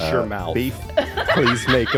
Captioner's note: crowd laughs